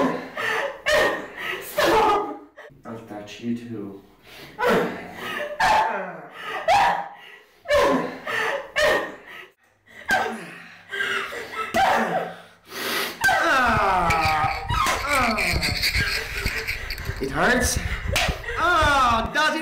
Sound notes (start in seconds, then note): 6.6 Linda yelps; 10.1 grunts; 10.1 slaps; 18.0 slap; 18.6 grunts